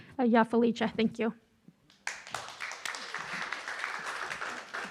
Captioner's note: audience applauding